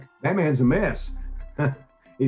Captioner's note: laughs